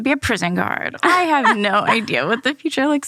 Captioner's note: laughs